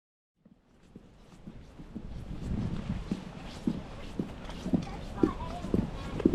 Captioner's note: footsteps and Background Sounds